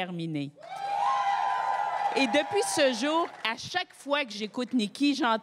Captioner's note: cris et applaudissements